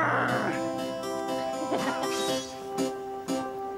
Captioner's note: <i> growls</i>; <i> kisses and giggles</i>